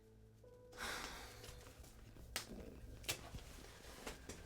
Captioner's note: cat sighing